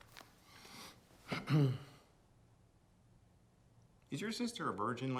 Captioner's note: Frank clears throat